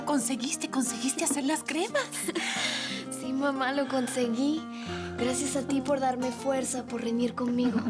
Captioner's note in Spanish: Risas